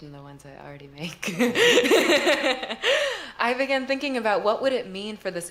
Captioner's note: laughter